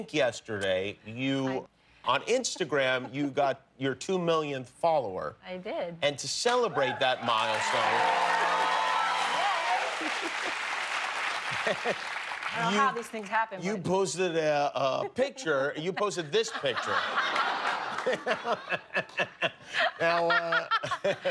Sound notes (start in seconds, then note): 10.1 cheers and applause; 19.5 laughter